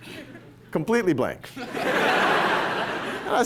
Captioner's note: laughter